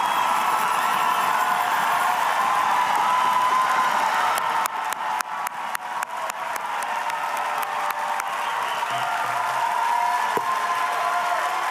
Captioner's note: cheers and applause